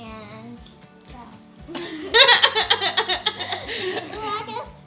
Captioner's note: laughing